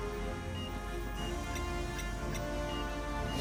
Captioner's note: electronic noises from the spaceship